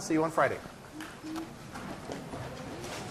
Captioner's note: classroom chatter